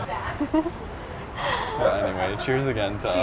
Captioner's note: giggling